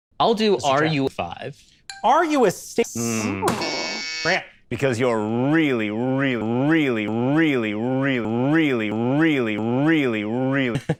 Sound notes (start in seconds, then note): 1.8 ding